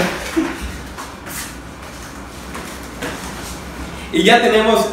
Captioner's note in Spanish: Pasos corriendo